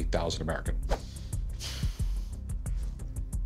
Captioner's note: sighs